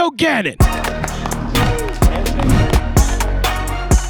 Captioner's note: clapping